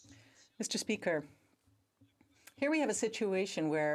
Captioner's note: speaking French